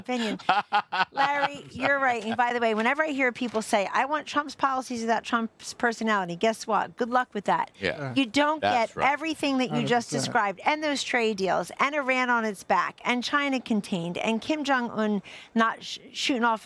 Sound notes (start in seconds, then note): 3.2 laughter